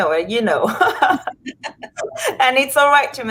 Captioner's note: laughs